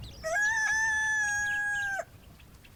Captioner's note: rooster crowing